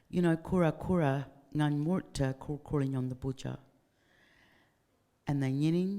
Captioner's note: speaking in foreign language